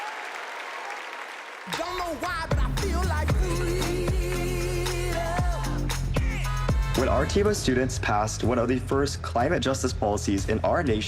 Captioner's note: applause